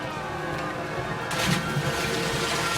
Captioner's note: splash